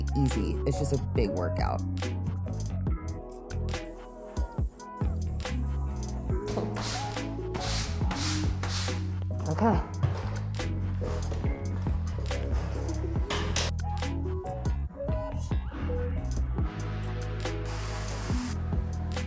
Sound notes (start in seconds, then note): 2.5 pleasant music; 7.5 broom scraping